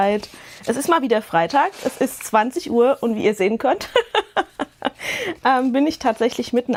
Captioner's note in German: gelächter